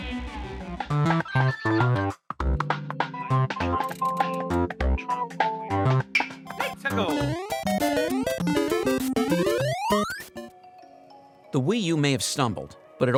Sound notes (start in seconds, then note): 0.8 Super Mario Maker sounds